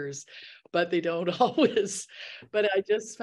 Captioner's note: laughs